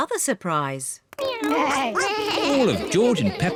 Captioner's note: all making animal sounds